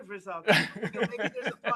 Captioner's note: laughs